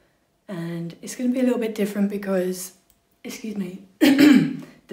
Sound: coughs

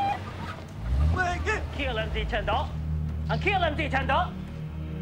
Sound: Vietnamese

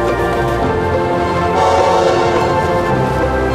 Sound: train whistle

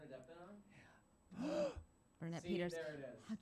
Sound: gasp

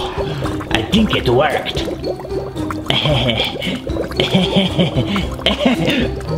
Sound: water bubbling; White hat gasps; White hat laughs

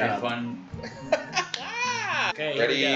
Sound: laughs

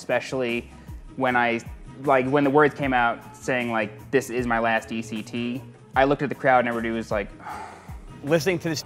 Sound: sigh

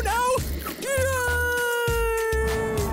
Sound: screaming

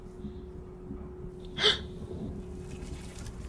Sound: gasps

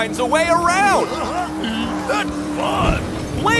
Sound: giggles

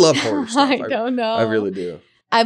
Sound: laughing

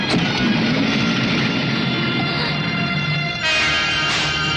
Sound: car Engine Start

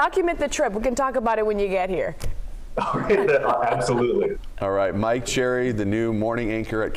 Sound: laughter

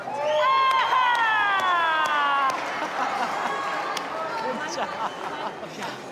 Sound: crowd cheering and clapping

